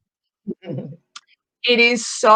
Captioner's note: chuckling